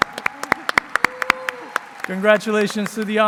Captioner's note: applause